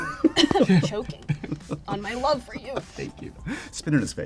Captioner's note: coughs